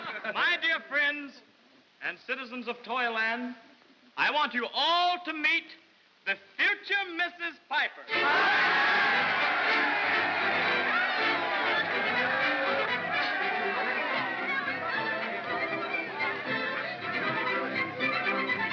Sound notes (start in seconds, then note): 0.0 soft laughter; 8.1 cheering; 8.1 jovial music